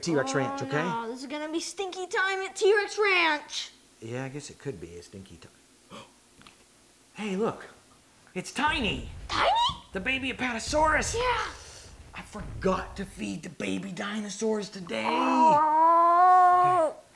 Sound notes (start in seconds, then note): 5.9 gasps; 14.9 groans